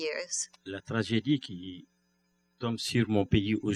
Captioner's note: speaking french